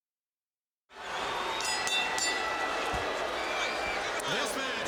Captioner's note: bell ringing